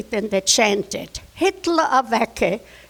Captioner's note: speaking in foreign language